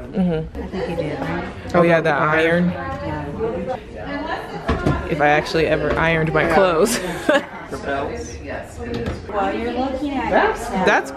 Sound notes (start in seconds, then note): 7.0 laughs